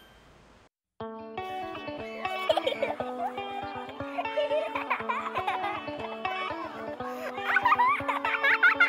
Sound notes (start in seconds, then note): 1.4 upbeat music; 2.2 children giggling